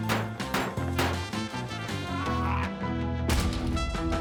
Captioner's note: grunts